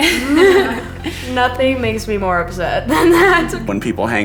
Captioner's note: laughing